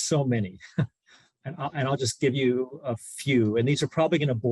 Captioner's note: laughter